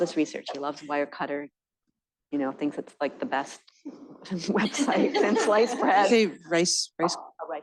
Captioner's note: laughter